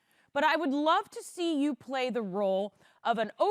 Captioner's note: none